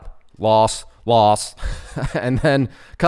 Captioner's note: laughs